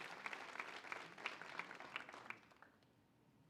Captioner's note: applause